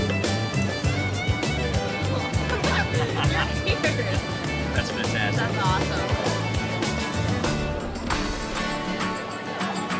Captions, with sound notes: (laughing) - Your beard. - That's fantastic. - That's awesome. (upbeat folksy music)